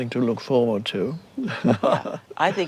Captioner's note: chuckles